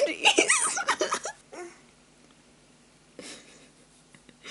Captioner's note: pathetically; laughs